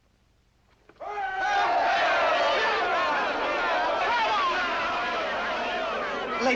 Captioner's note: Audience acclaims Cyrano